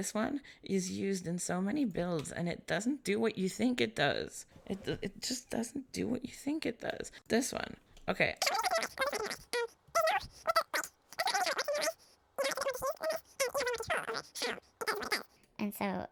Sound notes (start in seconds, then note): 12.3 sound of a long rant being sped up